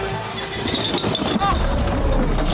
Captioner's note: cans rattling; patrons cheering